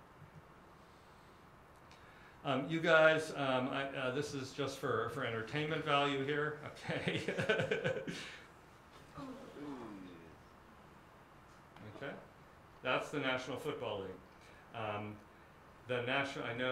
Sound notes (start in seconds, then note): 9.0 groaning